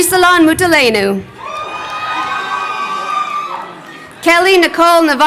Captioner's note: crowd cheering